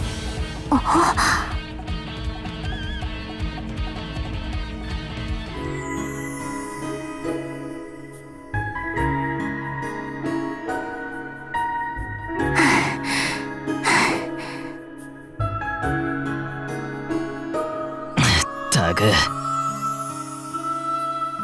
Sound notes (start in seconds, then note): 12.5 out of breath